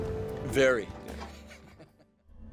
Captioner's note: chuckles